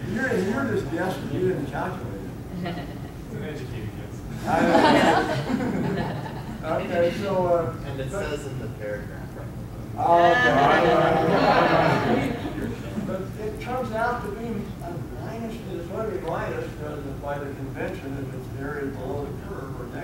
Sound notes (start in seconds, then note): 4.3 audience laughing; 10.0 audience moaning